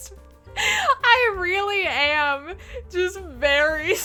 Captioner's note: inhale